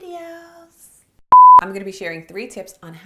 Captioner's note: screen beeps